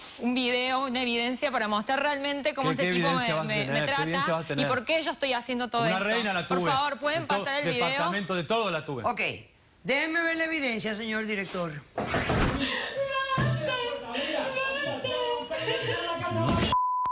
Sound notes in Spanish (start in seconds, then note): 12.6 sollozos; 14.4 habla entre dientes